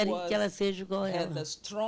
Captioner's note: speaking Portuguese